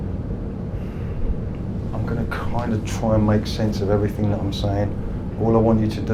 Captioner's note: sighs